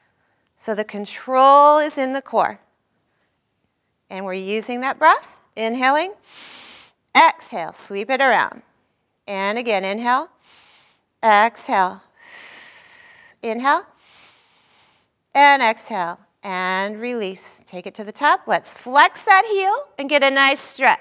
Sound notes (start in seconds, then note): 10.4 inhaling; 10.4 exhaling